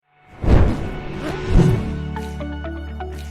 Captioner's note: fuse igniting; upbeat music